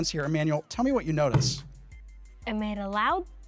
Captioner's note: pliers thudding